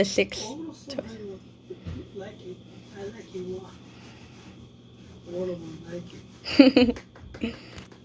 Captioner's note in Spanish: aplausos